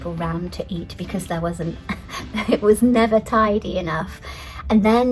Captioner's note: laughs